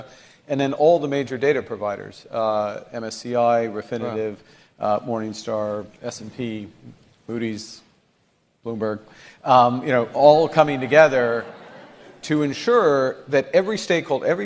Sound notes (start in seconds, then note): 9.8 audience laughing